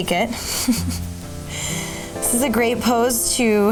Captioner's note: laughing